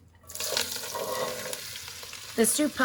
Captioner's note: vegetables sizzling